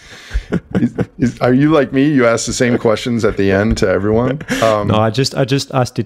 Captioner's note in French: Rires